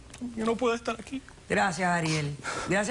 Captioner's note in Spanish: Solloza